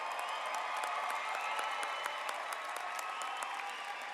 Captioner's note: applause